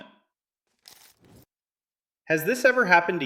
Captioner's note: pause